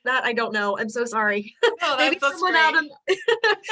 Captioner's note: laughter